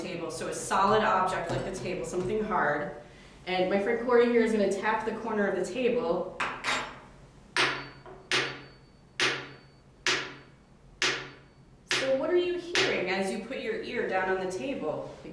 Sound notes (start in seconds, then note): 10.4 spoon tapping